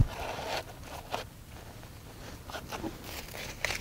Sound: gloves rustling

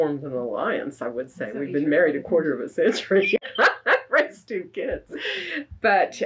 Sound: laughs

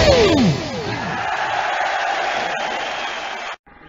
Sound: applause

